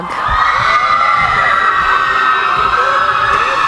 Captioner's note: cheering